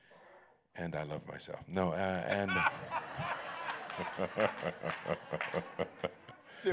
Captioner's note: laughter